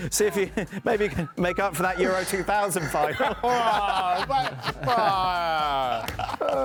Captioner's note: laughter